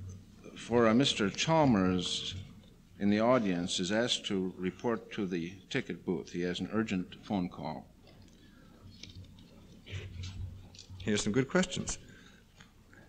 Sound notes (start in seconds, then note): 8.1 pause